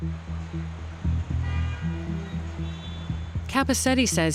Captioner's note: car horns honking